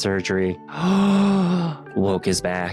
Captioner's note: gasps